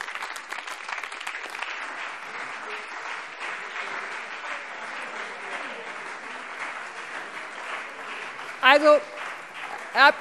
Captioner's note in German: Beifall BÜNDNIS 90/DIE GRÜNEN und CDU